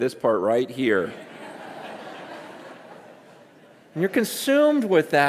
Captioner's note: congregation laughing